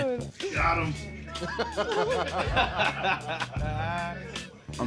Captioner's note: all laughing